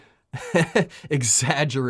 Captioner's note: laughs